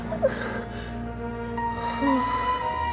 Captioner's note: sighing